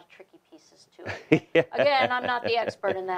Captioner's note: laughing